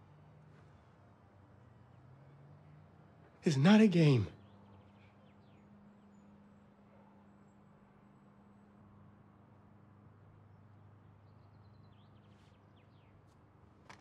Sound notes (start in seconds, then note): none